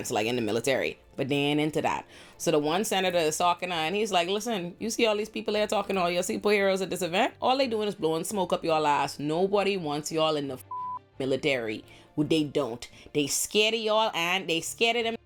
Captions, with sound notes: like in the military, but then into that. So the one Senator is talking to her and he's like, listen, you see all these people here talking to all y'all, see poor heroes at this event. All they doing is blowing smoke up your lives. Nobody wants y'all in the (beep) military. Who they don't. They scared of y'all and they scared of them